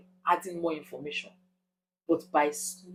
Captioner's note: paause